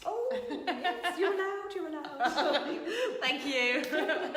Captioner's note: laughing